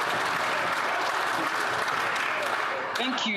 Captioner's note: applause